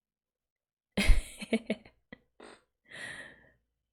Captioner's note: laughs